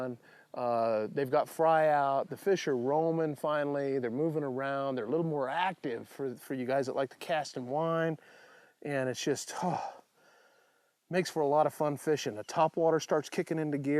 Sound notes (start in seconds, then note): 9.5 sighs